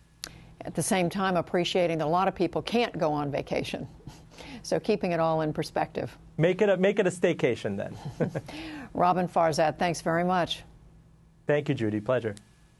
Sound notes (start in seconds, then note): 7.8 laughter